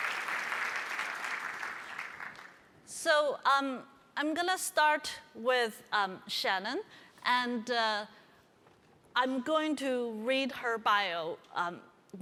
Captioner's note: applause